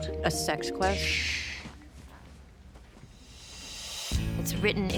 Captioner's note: shushing